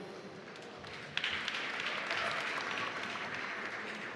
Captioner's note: applause